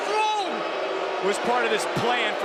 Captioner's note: crowd boos